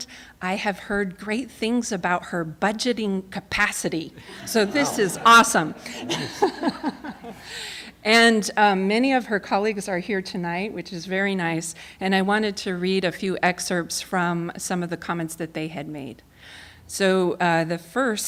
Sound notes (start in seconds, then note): 6.9 laughter